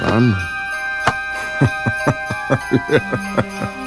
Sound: laughter

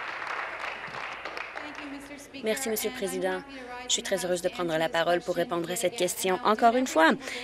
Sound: applause

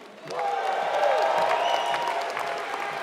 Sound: applause

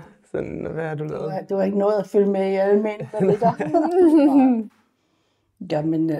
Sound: chuckles

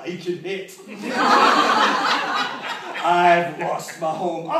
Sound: laughter

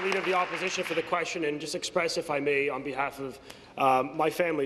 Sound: applause

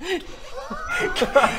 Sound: ashamed giggles

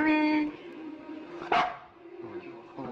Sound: woman speaks Japanese; dog barks

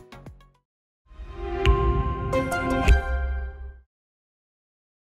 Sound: logo whooshing

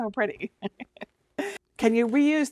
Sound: laughing

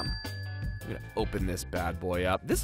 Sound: dings

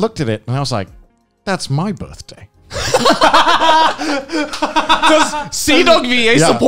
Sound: men laughing

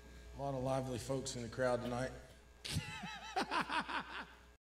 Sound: laughs

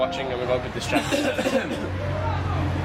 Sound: coughing

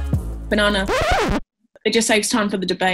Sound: upbeat music; record scratch

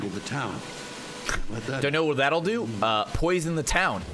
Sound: laughs

